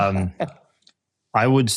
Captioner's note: laughing